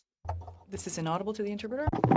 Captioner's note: speaking french